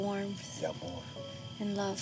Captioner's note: spanish